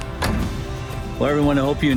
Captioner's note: door slams